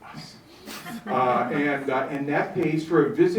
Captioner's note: audience chuckling